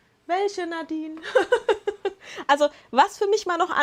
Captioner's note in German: Lachen